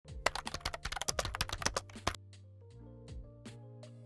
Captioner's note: computer keys clicks; soft jazz music